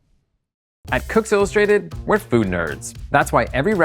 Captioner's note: voiceover